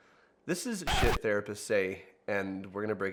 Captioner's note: beep